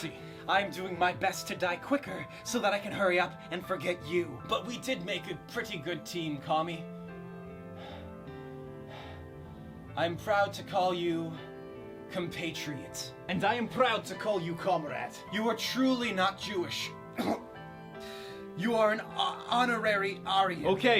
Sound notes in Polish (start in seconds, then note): 17.1 kaszel